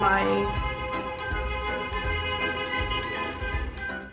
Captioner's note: loud honking outside